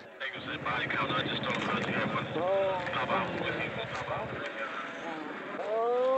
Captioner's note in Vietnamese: Tiếng liên lạc bộ đàm; Tiếng rên rỉ; Tiếng rên rỉ lớn hơn